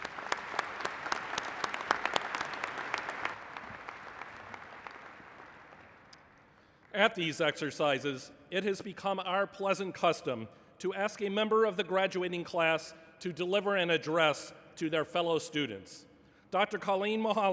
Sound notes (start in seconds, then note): 3.0 applause